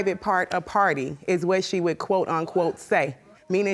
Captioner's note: audience gasp